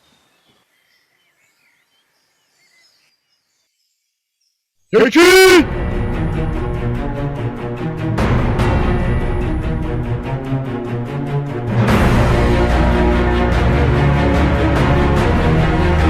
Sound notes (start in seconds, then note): 5.1 foreign, shouts!